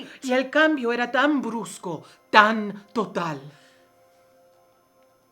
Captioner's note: speaking in foreign language